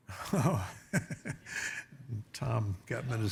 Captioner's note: laughs